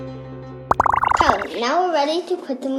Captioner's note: bubbles popping